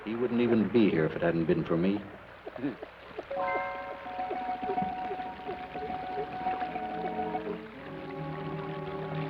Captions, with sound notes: He wouldn't even be here, if it hadn't been for me. (suspenseful orchestral music) (water trickles)